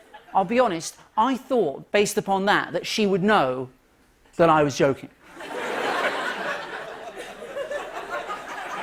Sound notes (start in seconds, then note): 6.8 light laughter